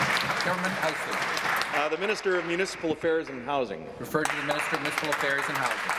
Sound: applause

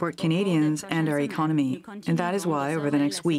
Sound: speaking French

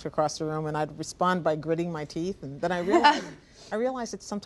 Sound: laughter

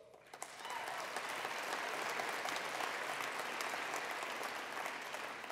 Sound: attendees applauding

